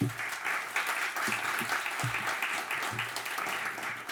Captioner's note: audience clapping